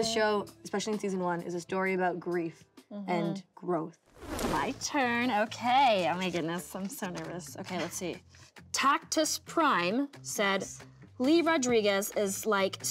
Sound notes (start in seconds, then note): 4.1 crackling swoosh